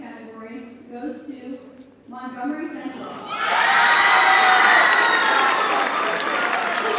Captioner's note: audience cheers and applauds